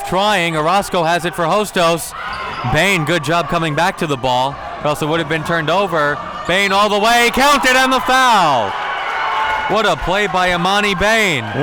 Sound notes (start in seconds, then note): 6.9 whistle blows; 8.6 audience cheering